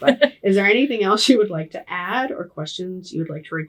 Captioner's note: laughing